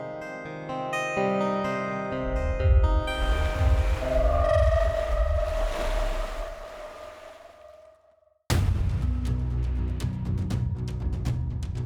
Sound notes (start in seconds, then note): 2.2 waves crashing; 8.5 tense dramatic music